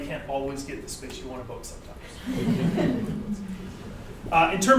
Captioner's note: audience laughter